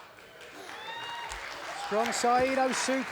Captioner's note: crowd cheers and claps